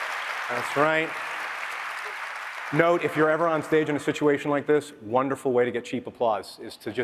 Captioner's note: applause